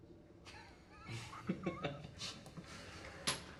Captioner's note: chuckling